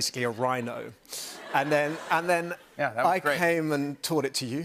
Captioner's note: laughter